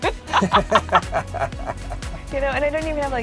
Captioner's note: laughing